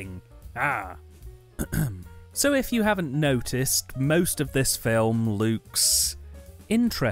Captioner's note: ahem